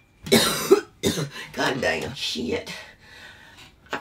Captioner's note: coughs